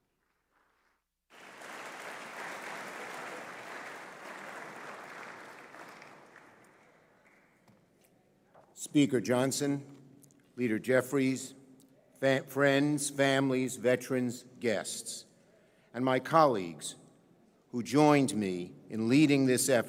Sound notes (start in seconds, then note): 8.0 applause